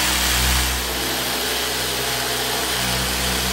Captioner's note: machine whirring